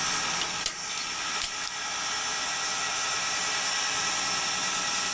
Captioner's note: metal clanking